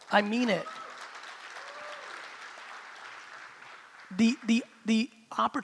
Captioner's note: crowd clapping; crowd cheering